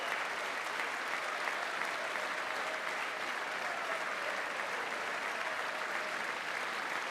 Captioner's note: applause